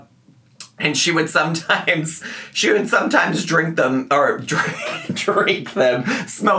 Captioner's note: laughs